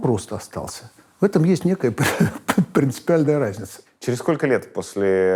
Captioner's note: holds back laughter